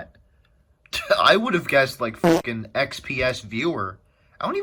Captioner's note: fart